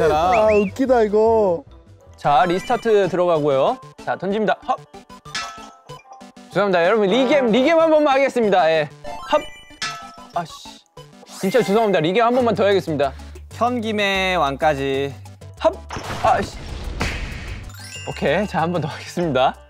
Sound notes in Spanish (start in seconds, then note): 15.9 Crash